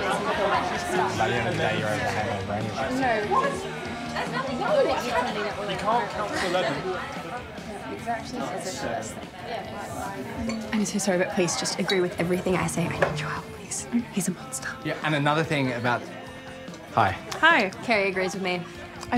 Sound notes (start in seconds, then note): 7.2 background people chattering; 7.2 melodic upbeat music